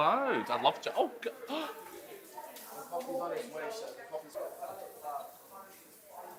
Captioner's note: gasps